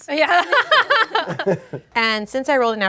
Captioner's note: group laughs